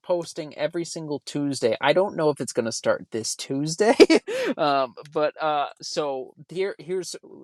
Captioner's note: laughs